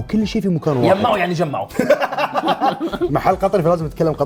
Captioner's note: laughs